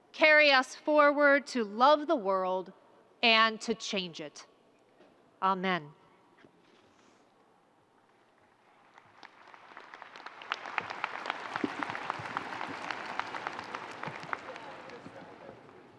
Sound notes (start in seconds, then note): 8.7 audience applauding